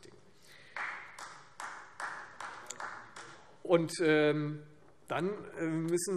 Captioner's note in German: Beifall Freie Demokraten